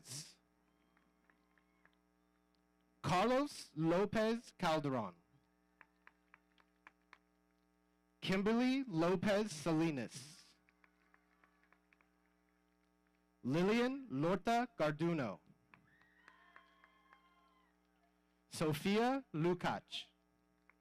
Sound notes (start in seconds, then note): 5.8 audience applauding; 10.7 audience applauding; 15.9 audience cheering